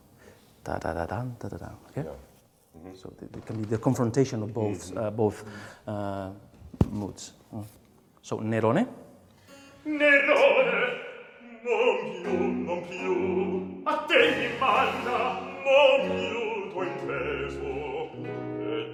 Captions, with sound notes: Dada dadum dadum, okay. So, it can be the confrontation of both moods. So, [SPEAKS IN FOREIGN LANGUAGE]. [BAROQUE OPERA MUSIC]